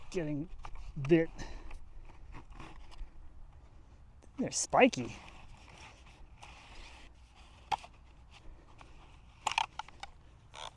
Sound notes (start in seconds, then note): 6.8 tube scrapes